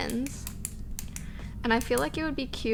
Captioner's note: pen clicking